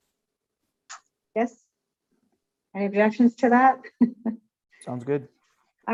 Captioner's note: laughs